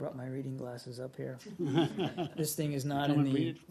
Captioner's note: laughter